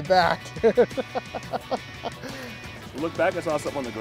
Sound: laughs

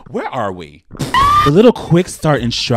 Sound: woman screaming

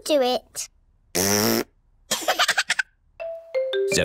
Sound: laughs; blows raspberry

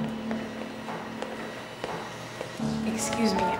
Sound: footsteps walking

